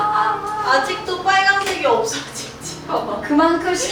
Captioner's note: haha